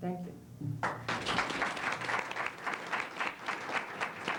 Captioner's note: applause